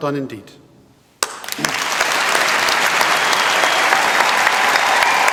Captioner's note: applause